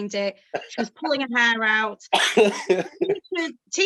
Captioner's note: speaking faintly